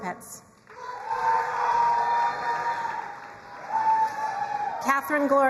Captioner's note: crowd cheering and applauding